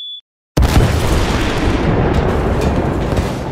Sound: explosion

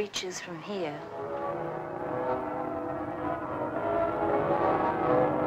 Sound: bells pealing

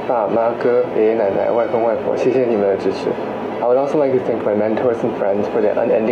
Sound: non-english speech

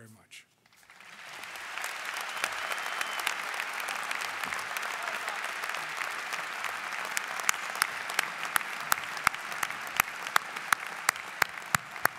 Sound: applause

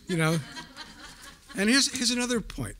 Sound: audience laughing

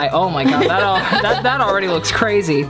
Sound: chuckles; laughs

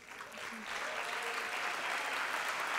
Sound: applause

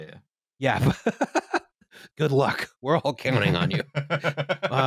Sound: laughing; laughs

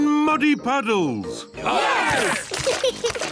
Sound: cheering; laughs

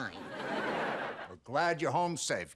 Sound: audience laughing

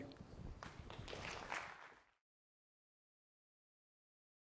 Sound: audience clapping

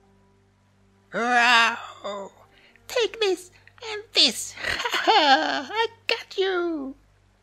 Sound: roar

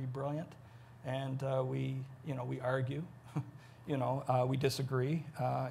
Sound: chuckles

